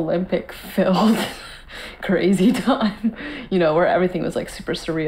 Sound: laughing

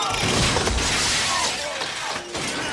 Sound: Muppets yelling; sign crashing; signs crashing

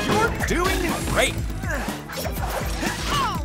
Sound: grunting

